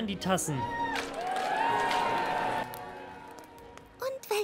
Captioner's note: cheers